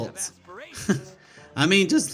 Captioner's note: laughs